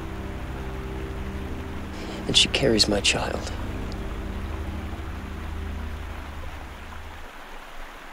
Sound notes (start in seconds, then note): 4.7 water flowing